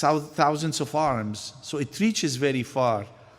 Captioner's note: none